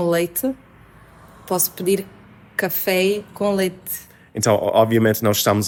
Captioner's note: Alentejo accent